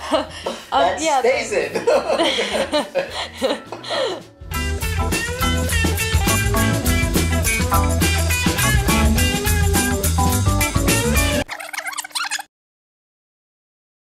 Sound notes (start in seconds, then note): 1.0 voiceover; 1.8 laughs